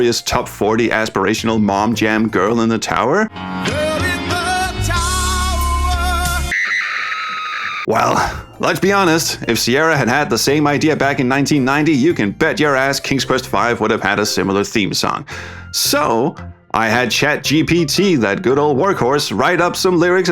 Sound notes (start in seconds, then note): 6.4 horrified scream